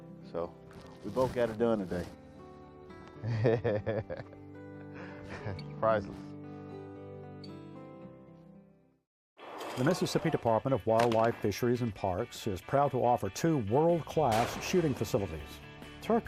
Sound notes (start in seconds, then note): 4.8 laughs; 9.6 upbeat country music